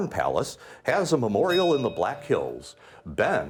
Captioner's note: bell ringing